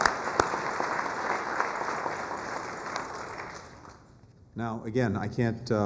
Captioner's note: applause